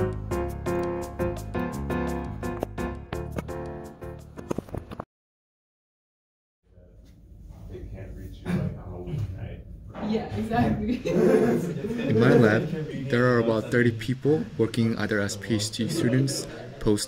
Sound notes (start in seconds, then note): 10.7 laughs